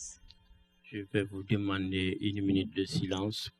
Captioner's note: speaking french